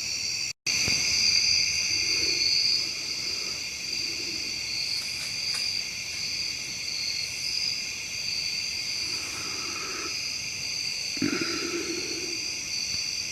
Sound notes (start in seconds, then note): 1.7 breathing heavily; 4.3 bushes rustling